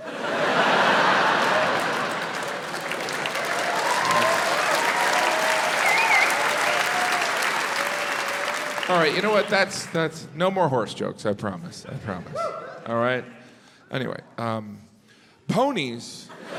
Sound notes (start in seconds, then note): 0.0 crowd laughs; 2.9 crowd claps